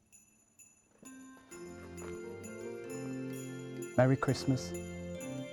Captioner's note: bells ringing